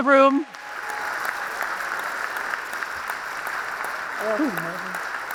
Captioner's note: audience applauds